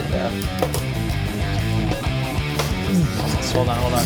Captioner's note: toy skateboard clanking; rock music